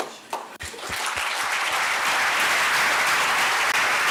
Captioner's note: crowd applauding